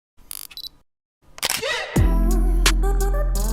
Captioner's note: camera shutter clicks; upbeat bass music